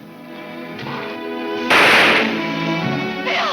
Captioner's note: shot firing